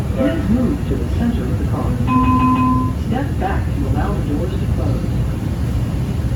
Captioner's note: chime